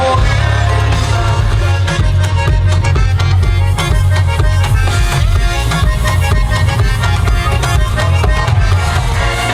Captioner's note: the wind starts blowing hard